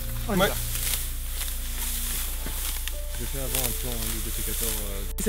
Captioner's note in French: bruit du blé qu'on écrase